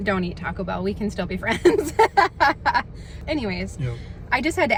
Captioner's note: laughs